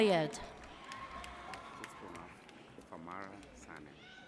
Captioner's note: audience cheers